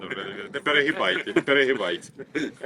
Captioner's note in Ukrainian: сміх